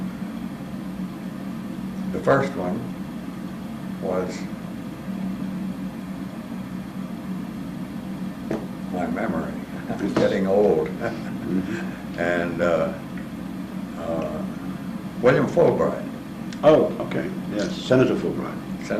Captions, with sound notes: The first one was. My memory. I'm getting old [LAUGH] and William Fulbright. >> Okay, yes, Senator Fulbright.